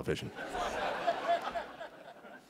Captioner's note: laughter